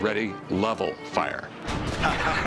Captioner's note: laughter